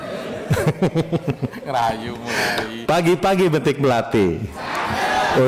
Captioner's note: laughs